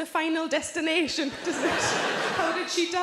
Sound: audience laughing

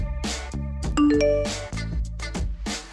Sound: beeping

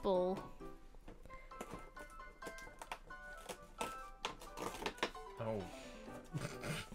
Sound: snorts

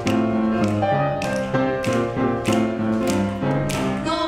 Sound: snapping

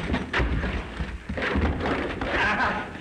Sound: fighting sounds

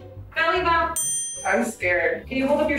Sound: ding

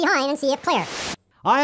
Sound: swirly sound

